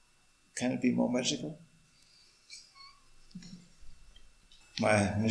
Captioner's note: laughs